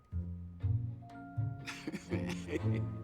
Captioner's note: chuckling